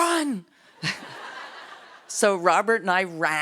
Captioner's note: laughs